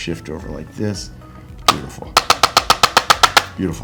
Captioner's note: instrument clicking